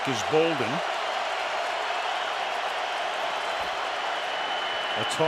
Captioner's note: cheering